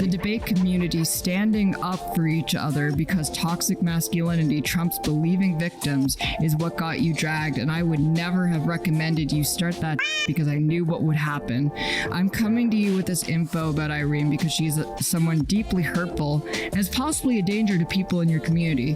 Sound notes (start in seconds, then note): 10.0 meow